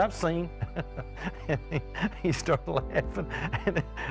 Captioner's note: laughs